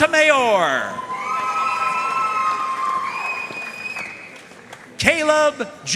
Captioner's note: audience cheering and applauding